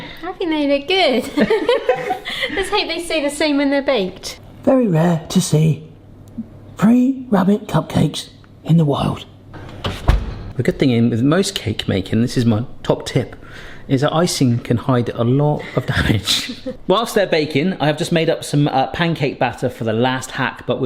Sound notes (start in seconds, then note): 1.2 both laughing; 9.5 oven door thudding